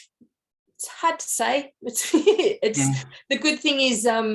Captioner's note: chuckles